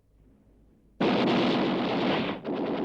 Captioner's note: gunfire